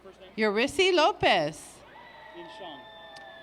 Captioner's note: applause